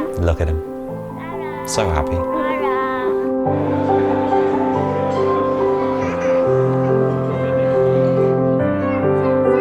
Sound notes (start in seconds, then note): 3.5 soft piano music; 3.5 people chattering